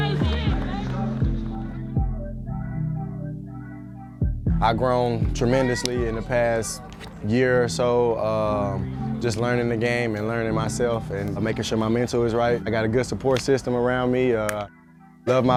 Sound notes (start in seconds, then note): 0.2 gentle hip-hop music; 4.8 dink